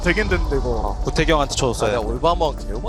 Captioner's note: BuZz